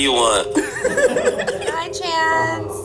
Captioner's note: all laughing